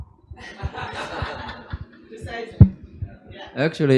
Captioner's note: doctors, professors laugh